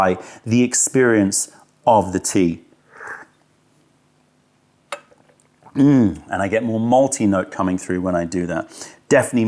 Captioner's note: sips tea